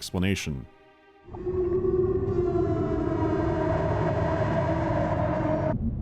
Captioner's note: somber, echoing wail